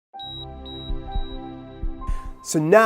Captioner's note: beeping